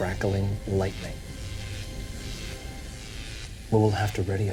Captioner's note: electricity zapping